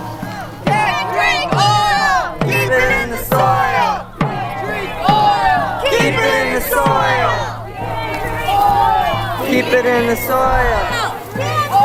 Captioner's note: chanting